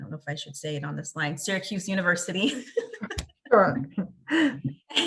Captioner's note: laughs